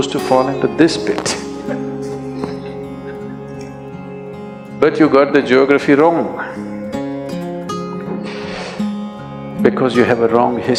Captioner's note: few Laugh